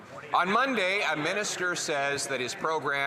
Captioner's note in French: voix de l'interprète